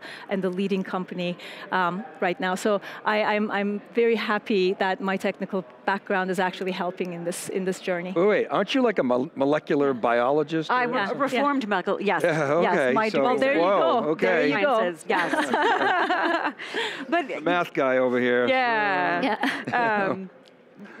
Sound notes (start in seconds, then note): 15.0 group laughs